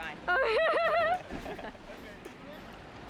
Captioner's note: laughs out loud